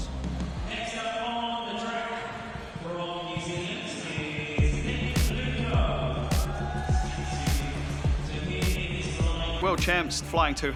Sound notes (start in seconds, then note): 6.2 crowd cheers